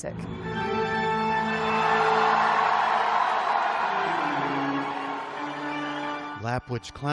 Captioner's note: cheering